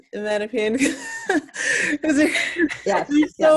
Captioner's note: laughs loudly